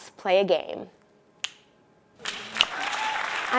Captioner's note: snaps fingers; audience clapping